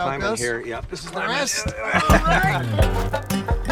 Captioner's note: grunting; banjo music